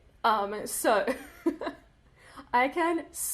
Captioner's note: laughs